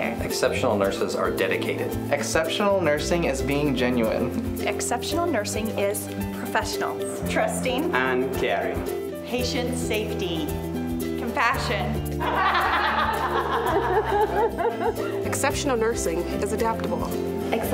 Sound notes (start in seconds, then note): 12.2 laughter